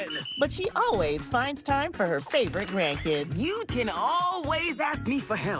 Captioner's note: whistle blows